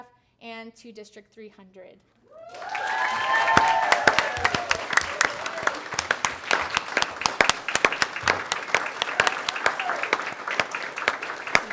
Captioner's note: applause